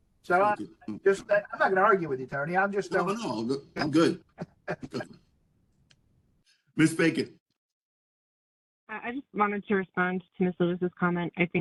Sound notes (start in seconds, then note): 3.0 laugh